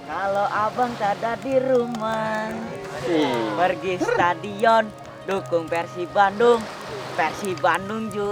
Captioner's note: Persib Bandung Chants